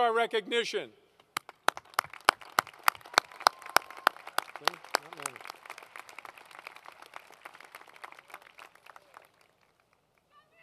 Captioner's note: applause